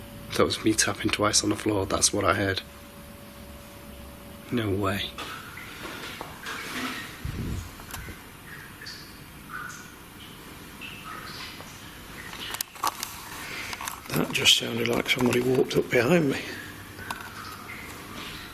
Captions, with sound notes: That was me tapping twice on the floor, that's what I heard. No way. (water dripping) - That just sounded like somebody walked up behind me.